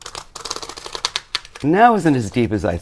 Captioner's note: cardboard grates